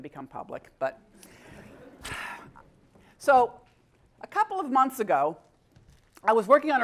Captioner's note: laugh